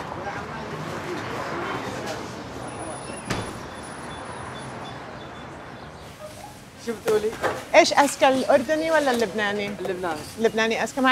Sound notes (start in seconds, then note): 7.5 speaking foreign language